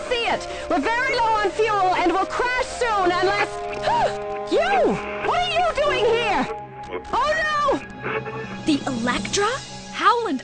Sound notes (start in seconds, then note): 3.3 gasps